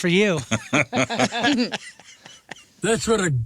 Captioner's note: laughing